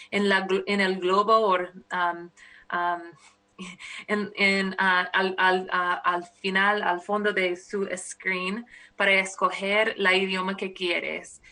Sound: speaking spanish

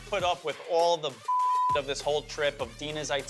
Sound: beep

